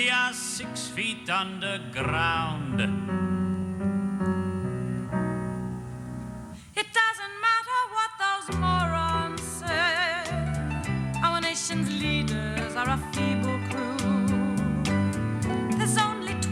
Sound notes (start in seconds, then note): none